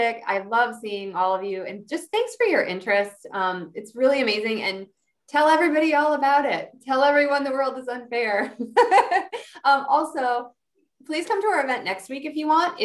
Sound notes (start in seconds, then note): 8.7 laughing